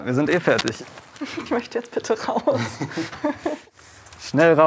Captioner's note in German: Lachen